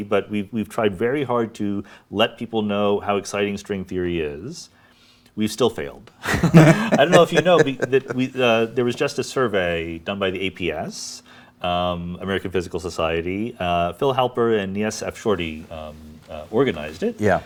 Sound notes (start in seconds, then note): 6.2 laughs